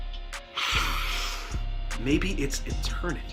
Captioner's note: sniff